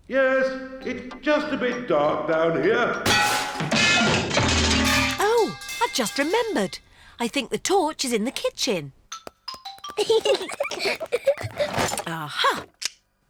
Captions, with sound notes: Yes. It's just a bit dark down here. -(CLANGING AND CRASHING) -Oh, I just remembered. I think the torch is in the kitchen. -(PEPPA AND GEORGE GIGGLING) -A-ha!